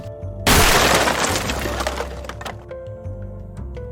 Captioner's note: loud explosion